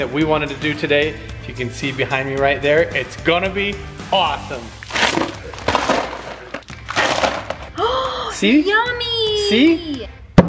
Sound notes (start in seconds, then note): 4.8 plopping